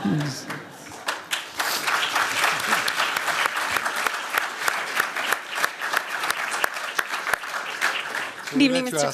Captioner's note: applause